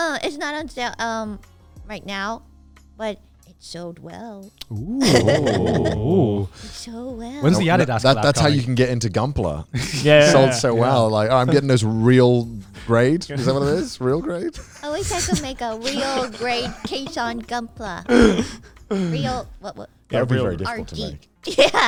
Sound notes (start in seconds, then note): 4.9 everyone oohing